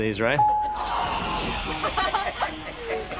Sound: laughing

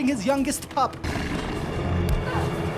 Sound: snarling

